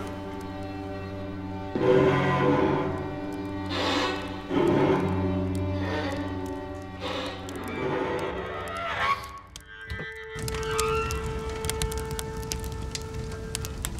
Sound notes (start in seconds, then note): 0.1 tense strings music; 10.2 fire crackling